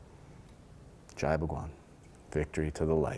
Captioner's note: speaking foreign language